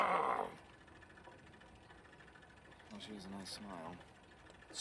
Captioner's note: growling